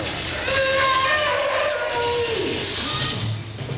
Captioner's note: roar